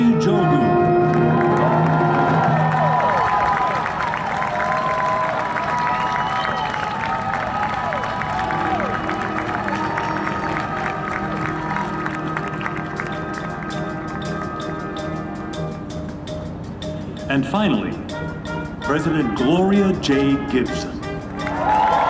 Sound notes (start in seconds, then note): 1.2 applause; 3.5 audience cheering